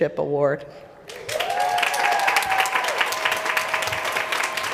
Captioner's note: applause